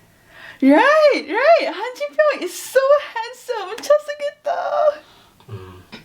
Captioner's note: fangirls in Korean